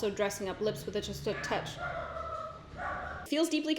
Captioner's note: dogs bark